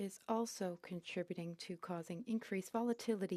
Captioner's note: speaking French